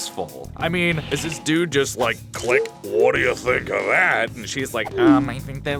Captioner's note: click